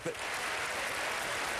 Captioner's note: applause